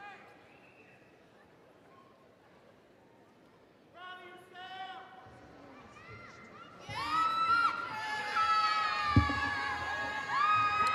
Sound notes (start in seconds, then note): 4.1 audience cheering